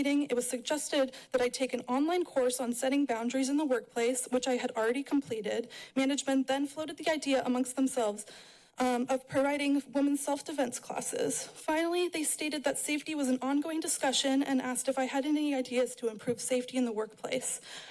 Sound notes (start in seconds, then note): none